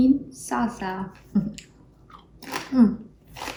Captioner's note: chuckles; chewing